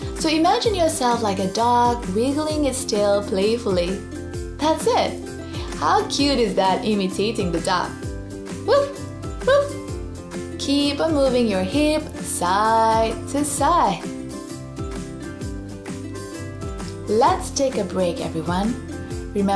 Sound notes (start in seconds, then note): 9.3 barks